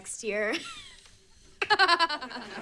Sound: laughing

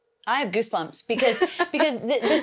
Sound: laughs

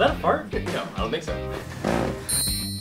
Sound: farting sounds

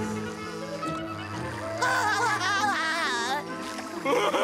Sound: laughing

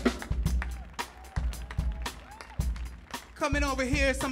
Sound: audience clapping and cheering

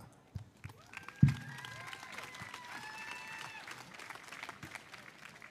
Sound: audience applauding

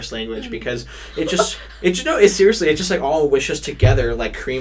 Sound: laughs

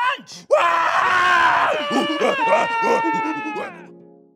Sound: screams

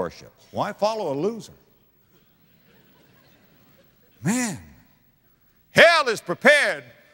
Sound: audience laughter

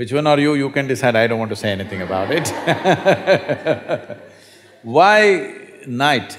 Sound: laughter

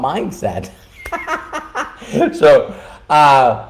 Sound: laughing

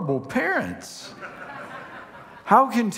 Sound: congregation laughing

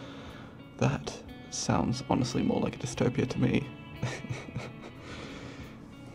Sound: laughs

